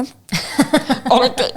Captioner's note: laughing